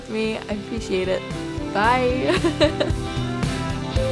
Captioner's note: laughs